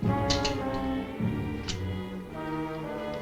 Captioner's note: gun clicking